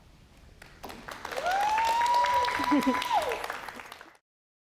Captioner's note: applause, cheering